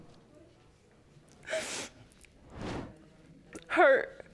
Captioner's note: sobbing